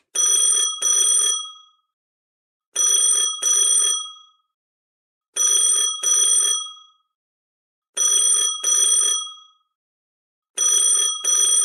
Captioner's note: phone ringing